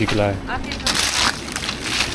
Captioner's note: speaking Turkish